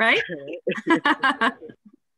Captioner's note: laughter